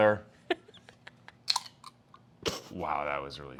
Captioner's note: laughs